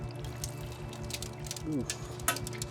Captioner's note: crackling